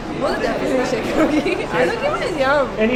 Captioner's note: giggles